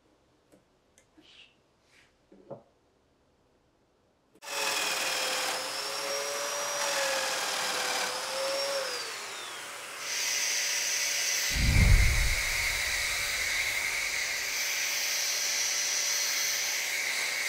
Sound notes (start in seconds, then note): 4.5 saw brattling; 11.5 description whooshing; 11.5 saw engine whirring